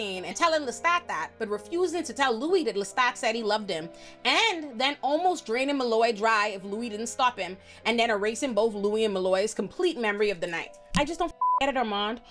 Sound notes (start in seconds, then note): 11.4 beep